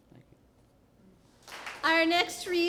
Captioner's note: applause